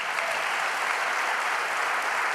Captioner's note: applause